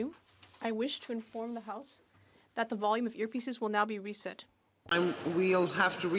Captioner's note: speaking French